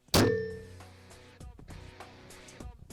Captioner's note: bow launches; upbeat rock music starts